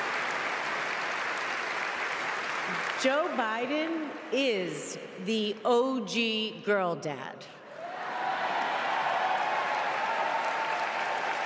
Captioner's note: applause